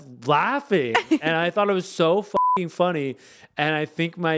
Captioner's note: beep